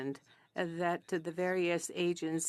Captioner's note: speaking French